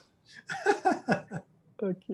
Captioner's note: laughs